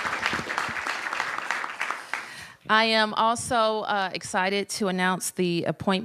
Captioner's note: applause